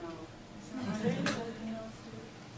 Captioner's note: audience laughs